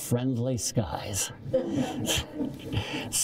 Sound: laughter

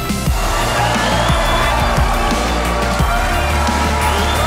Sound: audience cheers

